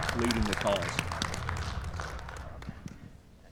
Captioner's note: audience applauds